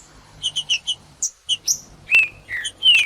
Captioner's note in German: trinca ferro cantando